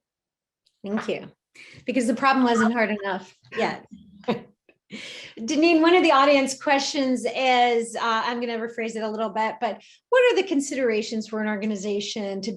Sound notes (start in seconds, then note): 3.5 laughs